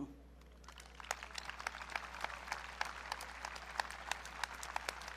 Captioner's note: audience clapping